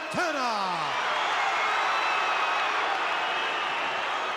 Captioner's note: crowd cheers